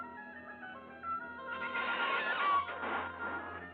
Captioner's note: hinges creaking